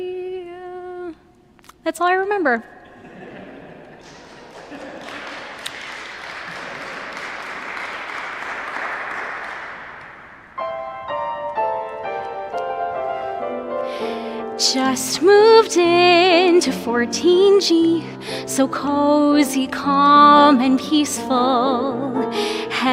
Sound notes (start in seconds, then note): 4.1 applause; 10.7 piano Music